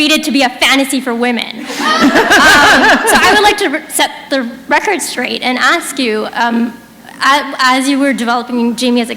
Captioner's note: laughter